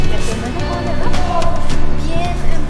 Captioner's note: still speaking Spanish